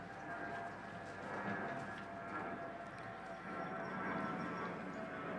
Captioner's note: airplane engine roaring